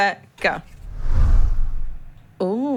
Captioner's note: air whooshes